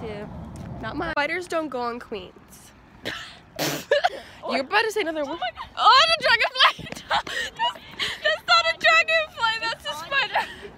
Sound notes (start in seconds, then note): 3.7 laugh; 6.6 laughing